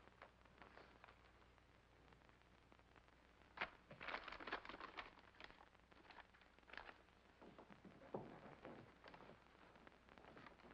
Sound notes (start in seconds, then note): 3.9 envelope rustles